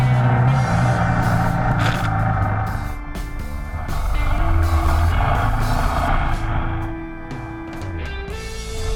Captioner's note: engine